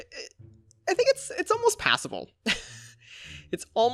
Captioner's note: chuckles